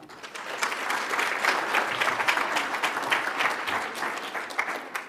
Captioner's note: audience applauds